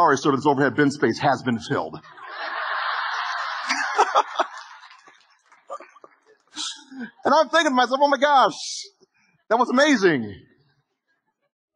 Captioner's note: audience Laughing